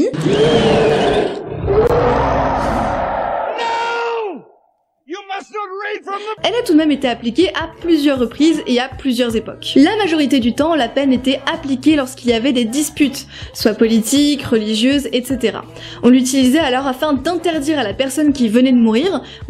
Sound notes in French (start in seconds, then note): 0.1 hurlement de momie; 3.6 cri